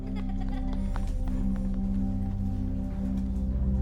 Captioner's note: laughing